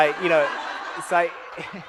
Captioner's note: audience laughs